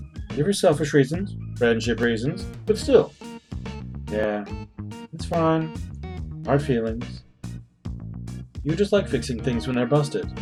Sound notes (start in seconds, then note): none